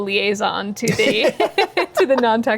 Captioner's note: both laugh